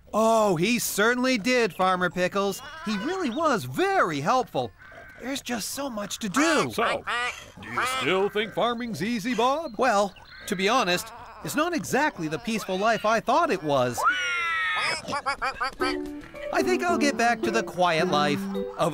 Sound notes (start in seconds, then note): 14.1 oinking & Quacking